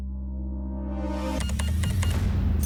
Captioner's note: beeps; register dings